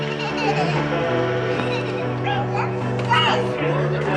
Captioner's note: children laughing